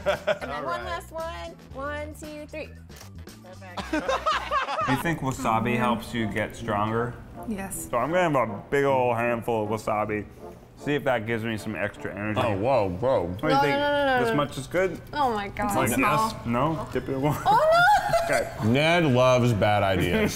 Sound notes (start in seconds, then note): 3.8 laughing